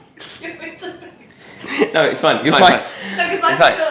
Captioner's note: laughs